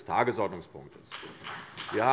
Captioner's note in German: Beifall CDU und BÜNDNIS 90/DIE GRÜNEN